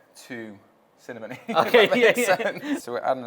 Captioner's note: both laughing